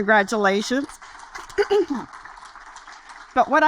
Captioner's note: audience applaud